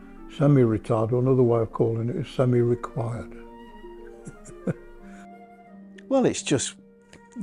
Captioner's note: chuckles